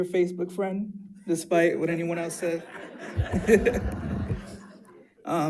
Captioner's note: laughs